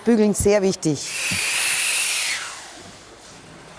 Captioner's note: hissing